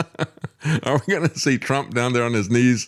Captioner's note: laughs